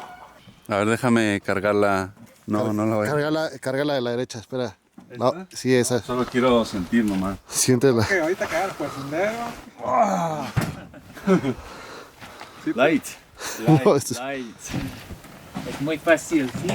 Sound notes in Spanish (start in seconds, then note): 9.6 gemido